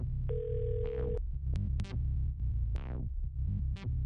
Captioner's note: phone ringing; doorbell